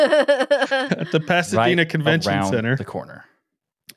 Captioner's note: laughing